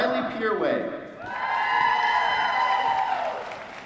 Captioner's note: applause